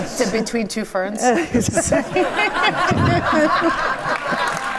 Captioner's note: audience laughs